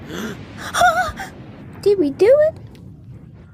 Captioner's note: gasps